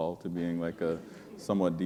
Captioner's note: chuckle